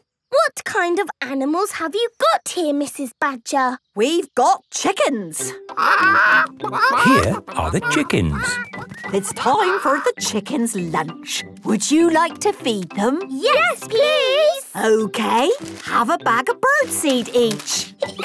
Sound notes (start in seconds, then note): 5.8 clucking